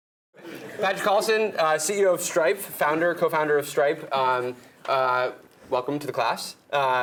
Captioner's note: laugh